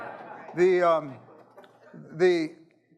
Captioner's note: audience laughing